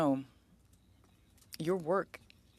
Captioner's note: speaking French